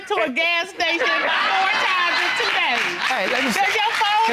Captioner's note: audience applauding